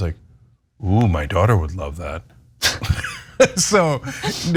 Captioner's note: laugh